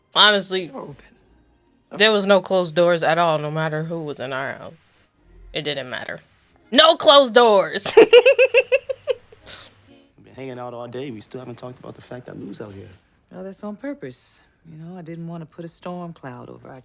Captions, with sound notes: Honestly there was no closed doors at all no matter who was in our house. It didn't matter. No closed doors! [Laughter]